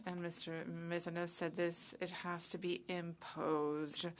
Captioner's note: speaking French